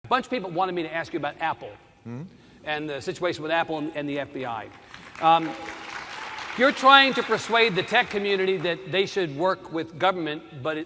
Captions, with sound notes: A bunch of people wanted me to ask you about Apple and the situation with Apple and the FBI. (Applause.) You’re trying to persuade the tech community that they should work with government.